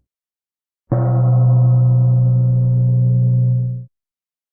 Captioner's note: gong sound